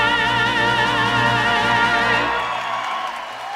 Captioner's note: applause